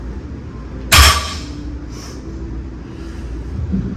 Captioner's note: weight clanks